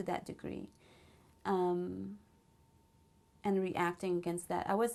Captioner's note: pauses for 3 seconds